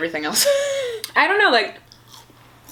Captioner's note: laughs